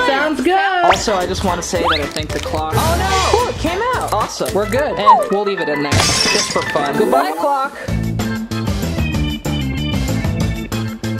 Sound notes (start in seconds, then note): 5.9 cartoon glass shattering; 7.9 fast cartoon music